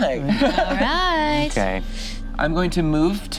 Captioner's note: laughs